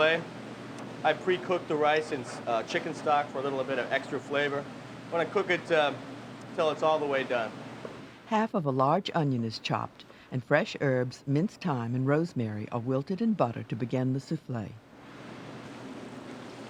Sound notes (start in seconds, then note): 7.6 voiceover